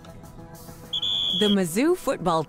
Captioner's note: sounds of football